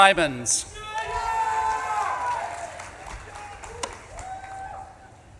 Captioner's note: audience claps and cheers